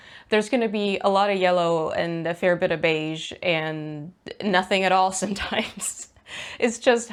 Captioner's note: laughs